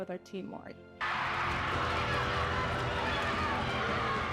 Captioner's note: crowd cheering